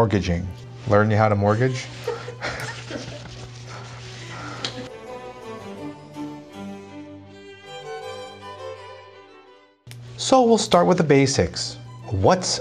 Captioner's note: laughs